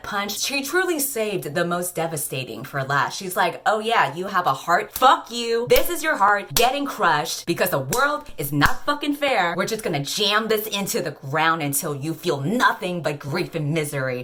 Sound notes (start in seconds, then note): 4.4 fist smack; 5.8 smack